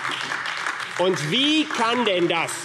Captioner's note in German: Beifall AfD